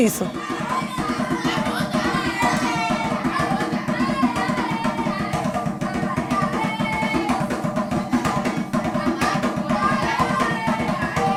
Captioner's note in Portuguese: gritos